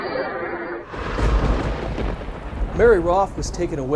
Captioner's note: thunder crashing